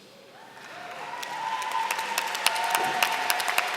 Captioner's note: applause